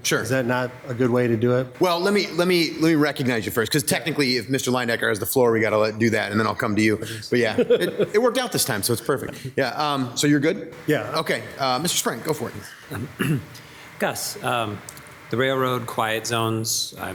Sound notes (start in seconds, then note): 7.2 laughs